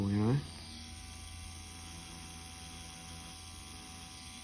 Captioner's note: machine whirring